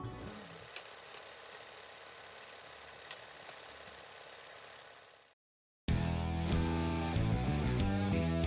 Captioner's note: film reel spinning